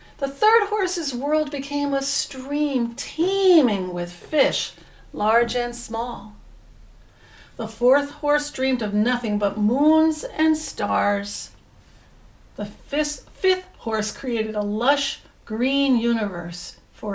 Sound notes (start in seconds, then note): none